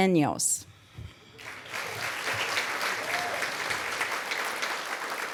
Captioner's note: applause